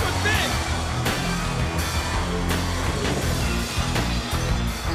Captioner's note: audience cheers